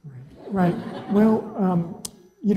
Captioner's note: laugh